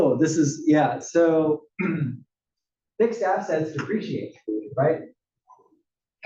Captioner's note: cough